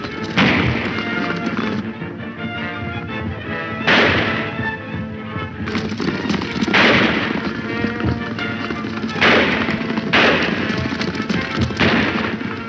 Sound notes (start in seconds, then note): 3.8 several shots ring out